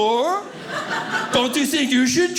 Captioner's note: audience laughing